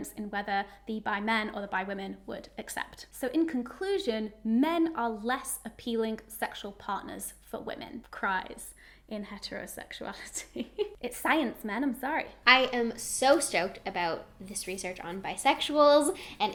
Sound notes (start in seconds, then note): 10.3 giggles